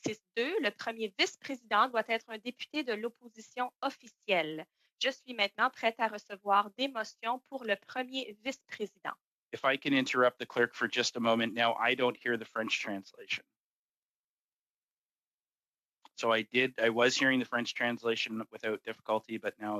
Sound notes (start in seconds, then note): 10.2 speaking French